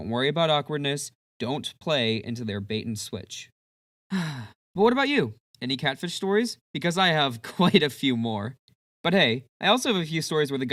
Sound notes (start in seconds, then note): 4.1 sigh; 8.4 chuckle